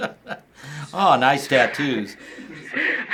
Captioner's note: chuckling; sarcastically; bursts into laughter